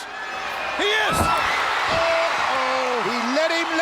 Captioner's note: audience cheers